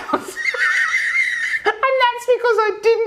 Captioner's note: laughing loudly